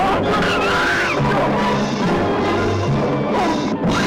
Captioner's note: screams; screams